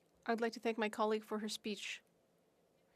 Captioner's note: speaking French